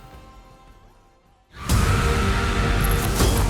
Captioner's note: screaming; dramatic music playing